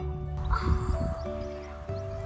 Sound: gasps

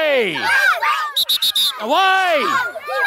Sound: whistle blows

